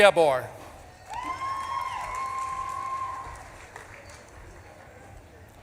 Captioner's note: audience claps and cheers